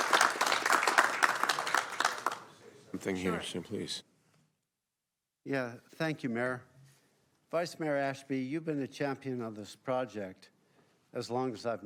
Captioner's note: applause